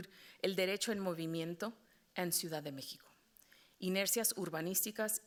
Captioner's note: moderator speaking Spanish